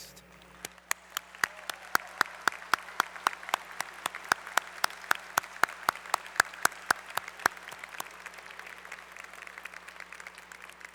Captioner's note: applause